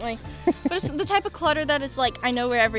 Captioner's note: laughs